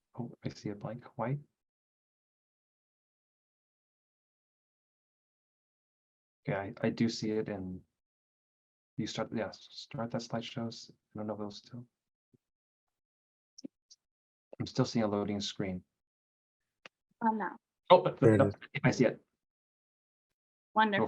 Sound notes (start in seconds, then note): 18.2 murmuring